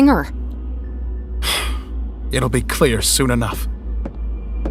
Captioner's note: sighs